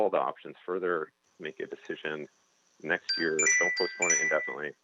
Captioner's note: chime